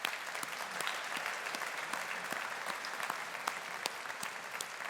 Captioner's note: audience applauding